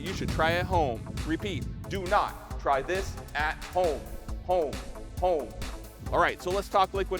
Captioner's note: echo